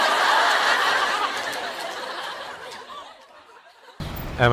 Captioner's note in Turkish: kahkaha